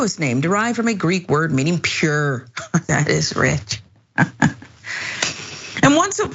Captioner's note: laugh